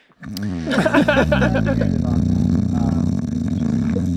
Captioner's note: groans loudly